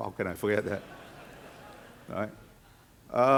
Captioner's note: audience laughing